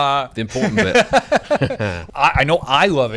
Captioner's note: both laugh